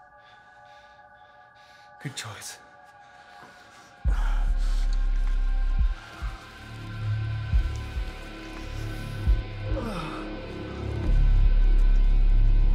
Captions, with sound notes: - Good choice. (grunting)